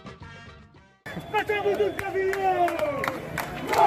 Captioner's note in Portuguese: Manifestantes cantando